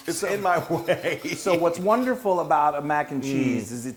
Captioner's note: laugh